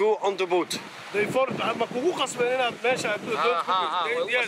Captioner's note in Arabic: الصوت الصومالي المنطوق